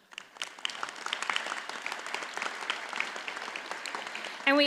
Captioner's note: audience applauds